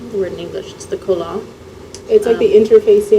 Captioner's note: non-english